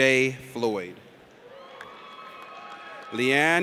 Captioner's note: audience cheers